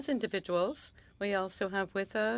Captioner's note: speaking French